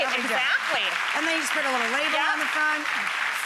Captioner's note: applause